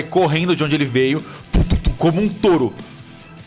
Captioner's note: thump thump